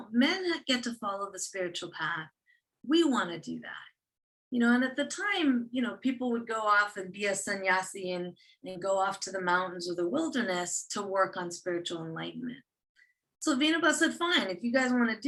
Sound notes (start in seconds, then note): 7.3 non-english speech